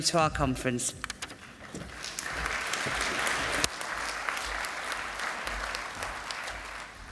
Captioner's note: applause